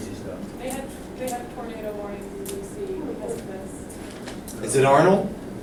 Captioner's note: voiceover